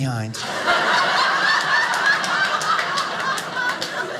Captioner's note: audience laughing